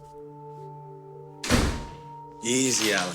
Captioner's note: door slamming